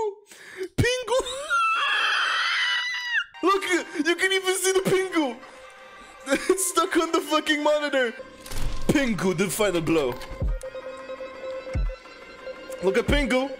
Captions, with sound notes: PINGU- [Laughing] Look, you can even see the pingu. It's stuck on the fucking monitor. Pingu didn't find the glow. Look at Pingu.